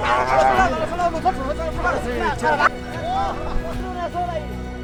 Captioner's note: farmers speaking